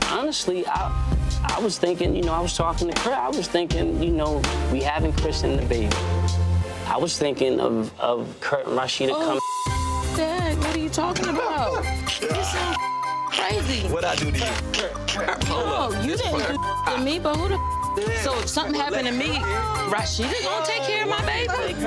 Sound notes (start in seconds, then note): 9.7 beep; 11.1 laughing; 12.6 beep; 16.1 beep